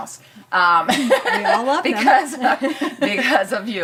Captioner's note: laughter